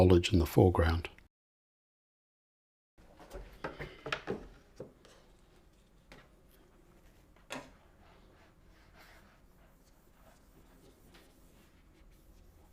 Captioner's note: silence